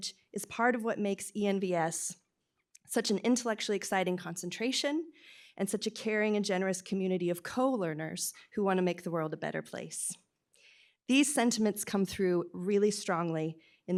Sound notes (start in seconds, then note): none